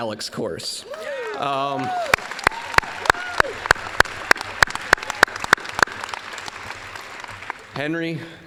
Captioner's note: applause